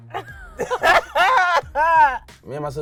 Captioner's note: both laughing